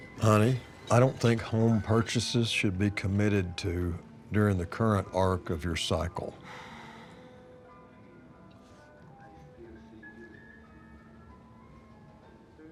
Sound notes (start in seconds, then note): 6.4 sigh; 9.3 swanky music